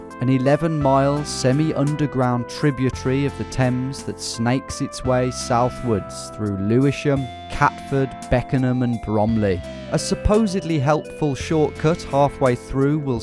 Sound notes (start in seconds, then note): none